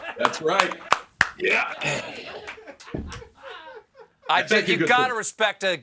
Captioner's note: applause